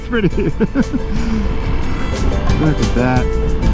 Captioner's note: laughing